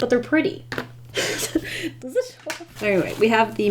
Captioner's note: laughs